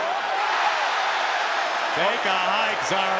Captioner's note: crowd cheering